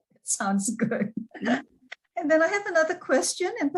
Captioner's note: laughs